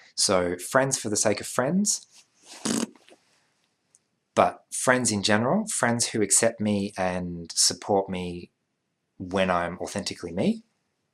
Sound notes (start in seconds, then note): 2.5 Bronx cheer